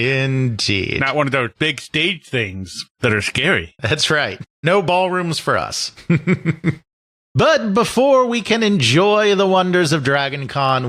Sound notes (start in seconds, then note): 0.0 laughs; 6.0 chuckles